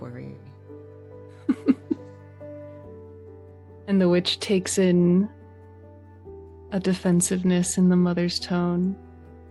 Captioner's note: laughs